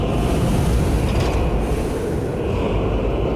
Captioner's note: Dwemer elevator stops